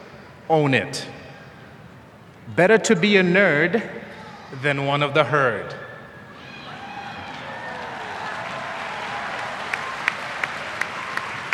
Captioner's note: applause